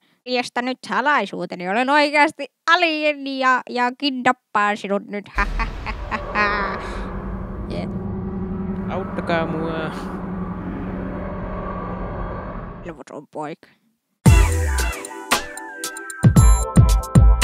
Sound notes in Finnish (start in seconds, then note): 5.4 abduktion ääniä